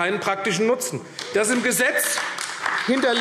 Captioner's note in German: Beifall AfD